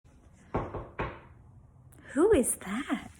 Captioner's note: knock on door